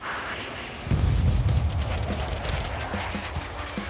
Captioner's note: aeroplanes whooshing; tense booming music; bright whimsical music